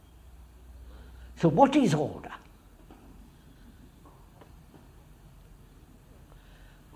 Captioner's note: none